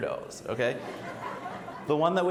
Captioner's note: audience laughs